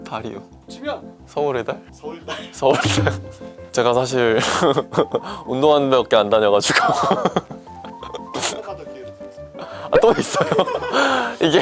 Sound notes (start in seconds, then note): 6.7 laughter